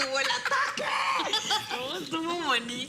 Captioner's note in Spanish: Risas